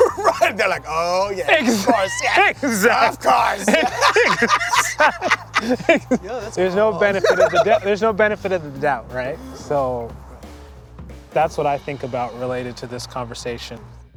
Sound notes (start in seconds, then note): 0.0 laughs